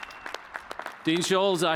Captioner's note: cheers and applause